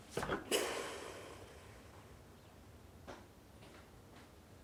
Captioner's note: Merle sighs